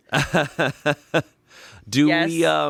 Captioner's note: laughs